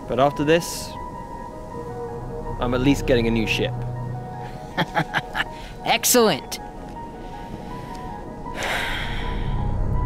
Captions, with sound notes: But after this, I'm at least getting a new ship. (laughing) - Excellent.